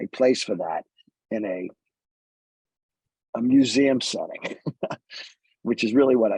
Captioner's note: laughs